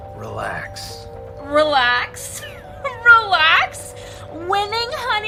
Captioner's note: laughs